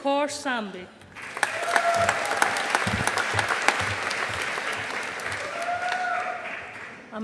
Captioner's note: audience applauding